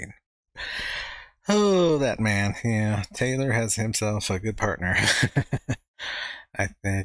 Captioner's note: chuckling